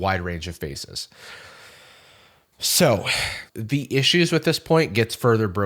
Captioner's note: inhales